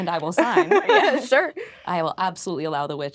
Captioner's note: laughing